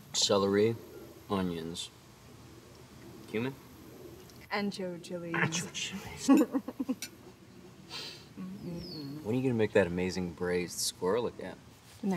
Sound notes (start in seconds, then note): 6.2 woman chuckles